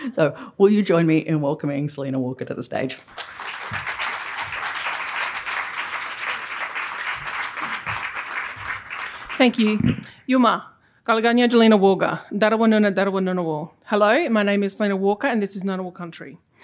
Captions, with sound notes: So will you join me in welcoming Selina Walker to the stage. [APPLAUSE] Thank you. [NON-ENGLISH SPEECH] Hello, my name is Selina Walker, and this is Ngunnawal country.